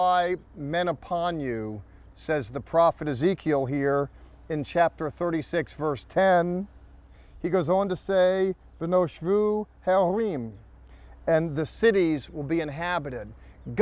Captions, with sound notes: "And I will multiply men upon you," says the prophet Ezekiel here in chapter 36, verse 10. He goes on to say-- [speaking in Hebrew] "And the cities will be inhabited."